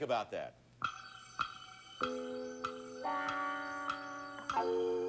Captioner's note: clock ticking